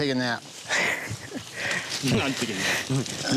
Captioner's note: laughs